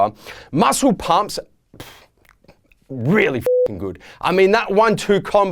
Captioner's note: beeping